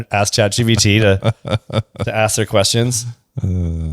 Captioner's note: laughs